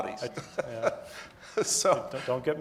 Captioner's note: laughs